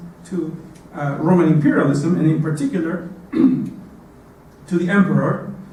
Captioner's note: cough